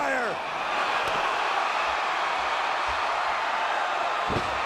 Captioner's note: audience cheering